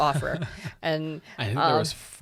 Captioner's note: chuckles